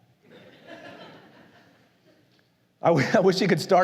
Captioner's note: la congregación se ríe